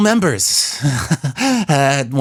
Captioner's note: awkward Laugh